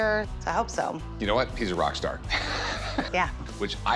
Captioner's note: laughs